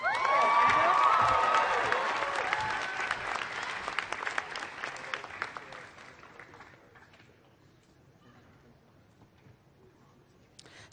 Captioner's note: applause